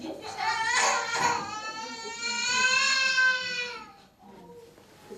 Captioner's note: child crying